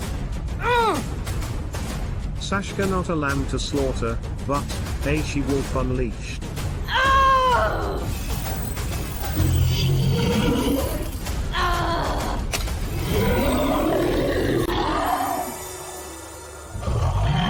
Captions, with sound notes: Saska Not a Lamb To Slaughter - But, a She Wolf Unleashed ! [Furious Cry] [Monster Roar]